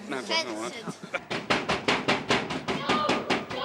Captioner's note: banging on door